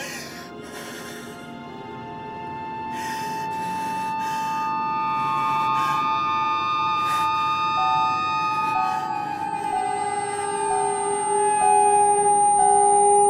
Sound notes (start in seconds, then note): 0.0 crying; 7.9 seat bealt warning chiming